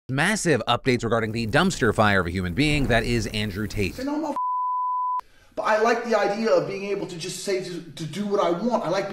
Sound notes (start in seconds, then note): 4.3 beeps